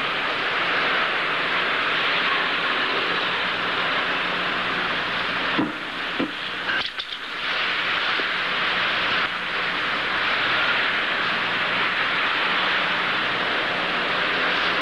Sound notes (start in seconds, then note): none